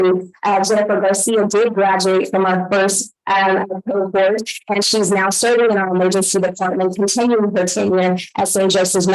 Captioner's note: audio staticy and echoing